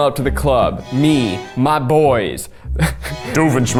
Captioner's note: laughs